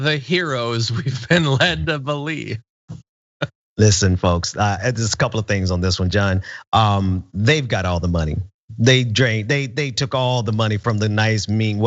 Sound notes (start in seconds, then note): 0.8 laugh